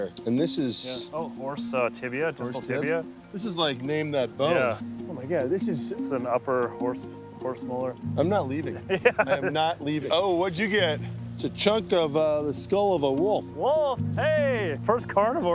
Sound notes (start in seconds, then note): 8.6 laughs